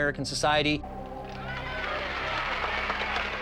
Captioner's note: women cheering